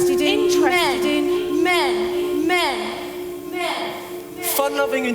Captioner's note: voices continue to echo and repeat